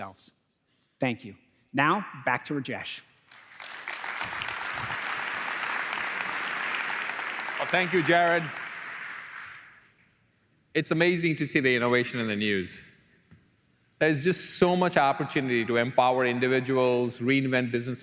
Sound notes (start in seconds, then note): 8.0 applause